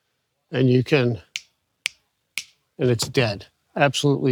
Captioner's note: fingers snapping